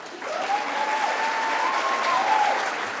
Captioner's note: applause